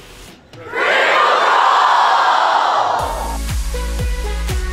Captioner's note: crowd; electronic music